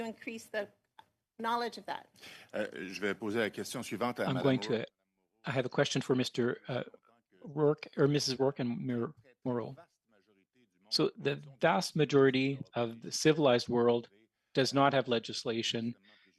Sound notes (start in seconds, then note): 6.9 speaking French